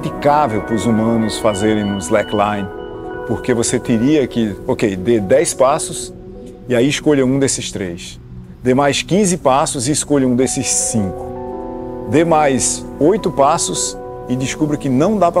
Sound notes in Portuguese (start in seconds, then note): none